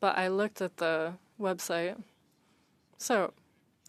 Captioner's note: speaking French